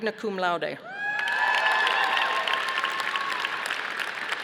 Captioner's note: audience applauding